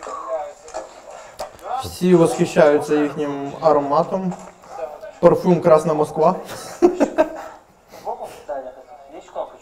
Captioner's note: laughter